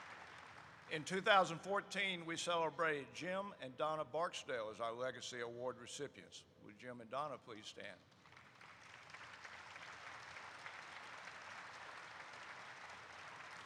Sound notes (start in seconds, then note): 8.0 applause erupts